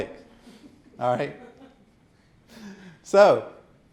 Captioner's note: audience chuckling